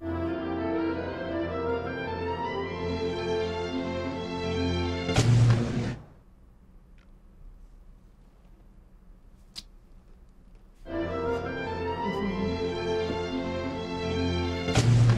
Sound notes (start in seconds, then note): 0.0 string music; 5.1 explosion poofs; 10.8 string music; 14.7 explosion poofs